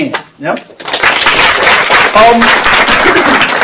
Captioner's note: applause